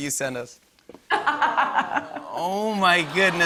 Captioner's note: laughs